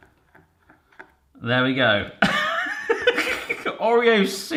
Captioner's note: laughs